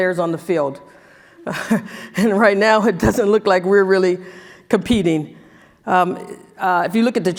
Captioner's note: laugh